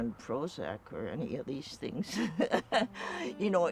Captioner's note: laughs